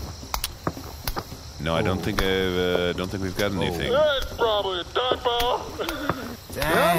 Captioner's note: suppressing tears